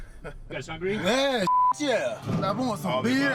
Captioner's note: beep